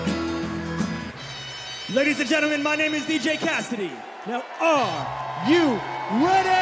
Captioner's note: cheers and applause